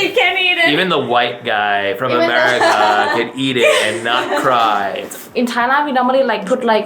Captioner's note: laughing